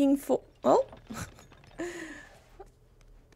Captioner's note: laughs